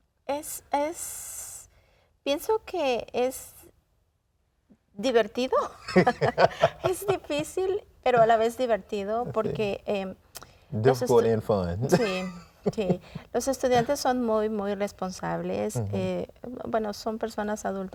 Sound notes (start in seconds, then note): 0.3 speaking in Spanish; 5.7 laughing; 7.2 continues speaking in Spanish; 10.9 speaking in Spanish; 13.4 speaking in Spanish